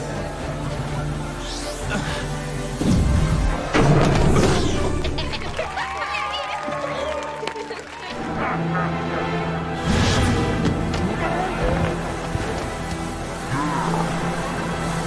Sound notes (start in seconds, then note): 1.5 grunting; 4.9 laughing and cheering; 8.4 evil laugh